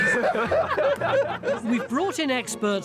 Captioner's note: laughing